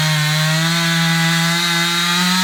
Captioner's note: saw buzzing